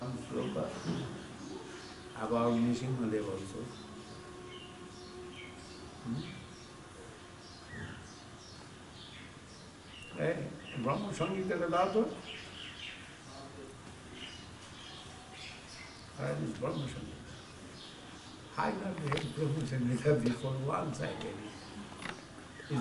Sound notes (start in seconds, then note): 12.8 speaks in bengali